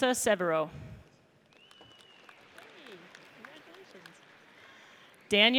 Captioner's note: audience applauds